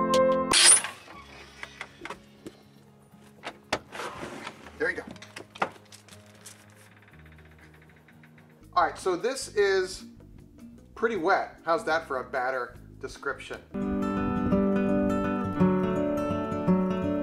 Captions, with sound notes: (screen door squeaking) There you go. All right, so this is pretty wet. How's that for a batter description? (gentle bright music)